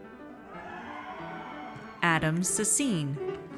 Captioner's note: audience cheers